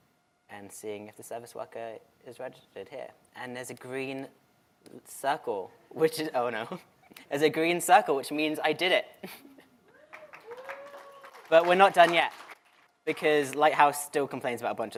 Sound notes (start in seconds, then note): 10.0 applause